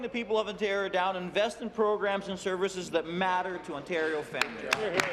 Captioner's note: applause